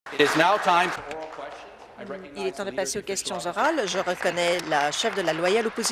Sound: applause

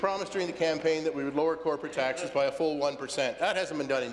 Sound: laughter

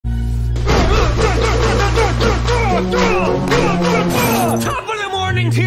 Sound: local vermont man punching sounds

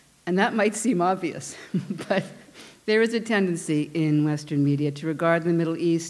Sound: chuckle

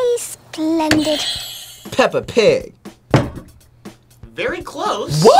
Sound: bell rings

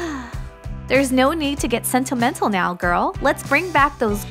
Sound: sigh

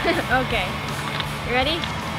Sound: laughs

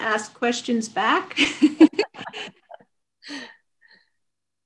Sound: all laughing

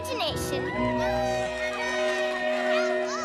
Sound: cheers

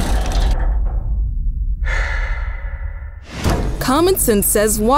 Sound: chair creaks; breath exhale

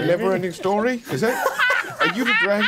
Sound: players laughing

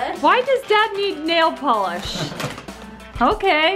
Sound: dad chuckles

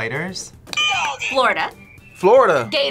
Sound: buzzer rings

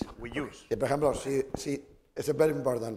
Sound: speaking spanish

